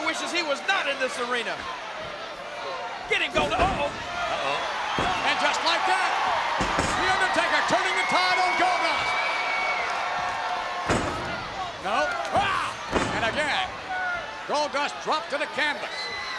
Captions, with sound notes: wishes he was not in this arena. Get him, Goldust. Uh-oh! Uh-oh. And just like that The Undertaker turning the tide on Goldust. (body thuds) No, and again, Goldust dropped to the canvas.